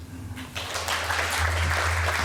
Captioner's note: applause